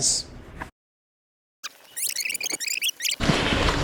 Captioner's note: tape rewinding